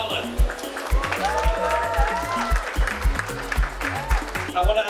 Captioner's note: applause